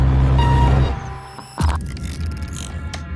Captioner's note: computer bleeping